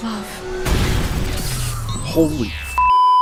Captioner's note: crashes; beeeeeep